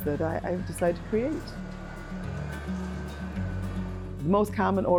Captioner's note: hand crank winding